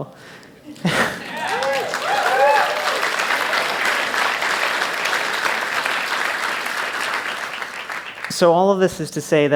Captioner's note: applause